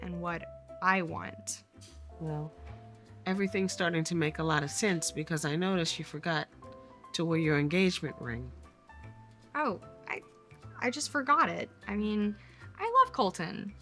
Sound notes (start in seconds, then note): none